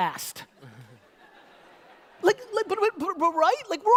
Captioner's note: audience laughter